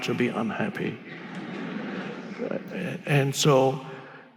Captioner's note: audience laughing